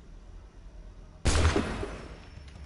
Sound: gunshot

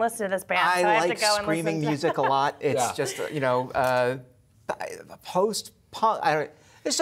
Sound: laughter

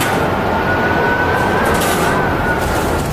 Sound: crashing

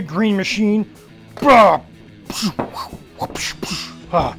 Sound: grunting

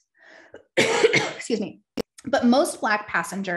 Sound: coughs

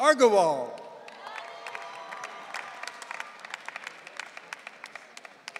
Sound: audience cheering

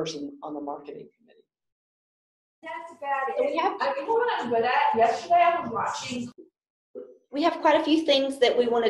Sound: background chatter

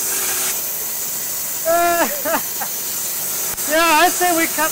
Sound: laughs

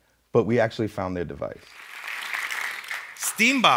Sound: audience clapping

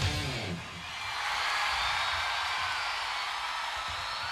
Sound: audience cheering

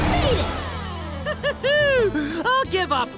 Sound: laughing

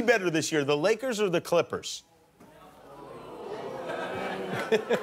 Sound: laughter

